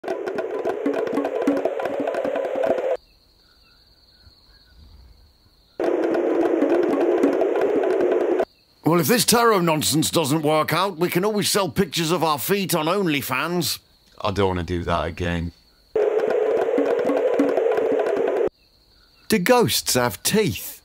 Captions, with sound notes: [ BONGOS ] [ CRICKETS ] [ BONGOS ] MONTY “Well if this Tarot nonsense doesn’t work out we can always sell pictures of our feet on Onlyfans” KIPPI “I don’t wanna do that again” [ BONGOS ] FOOL “Do ghosts have teeth?”